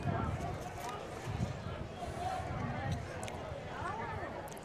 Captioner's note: chatter